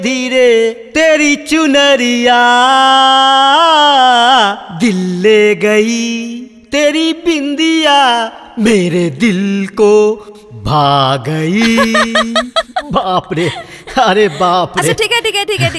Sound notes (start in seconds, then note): 11.5 laughs